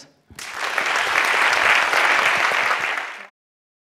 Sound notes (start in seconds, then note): 0.3 applause